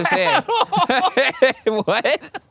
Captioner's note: laughing